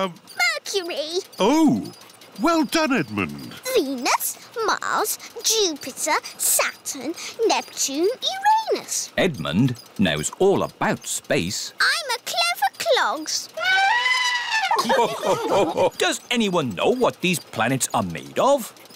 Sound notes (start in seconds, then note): 13.6 trumpets; 13.6 all laugh